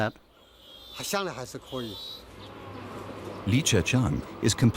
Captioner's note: speaking in foreign language